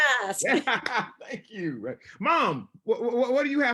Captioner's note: laughs